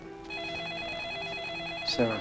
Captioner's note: ring